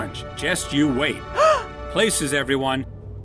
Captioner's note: gasp with glee!